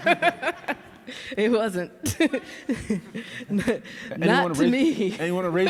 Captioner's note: laughs